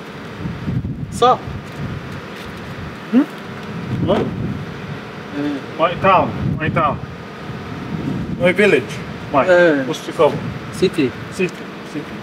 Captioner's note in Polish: rozmowa po angielsku